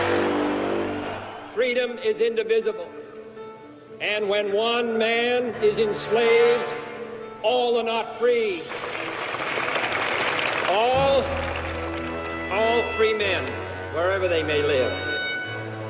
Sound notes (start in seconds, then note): 8.5 crowd applauds